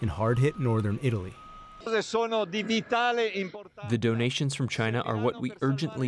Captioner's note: through translator